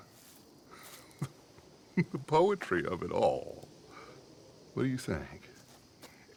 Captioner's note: chuckles